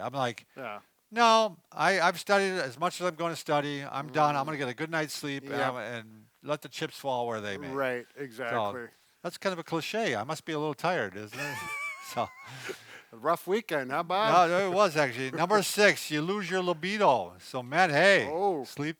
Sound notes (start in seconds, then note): 11.3 laughs